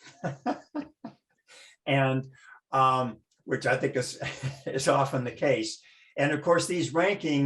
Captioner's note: laughter; brief laughter